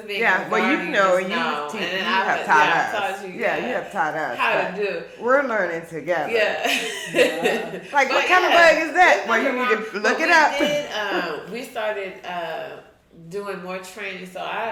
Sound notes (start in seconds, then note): 6.6 chuckles